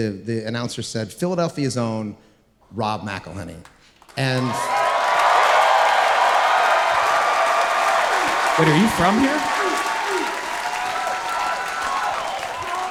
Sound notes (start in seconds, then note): 4.3 audience cheering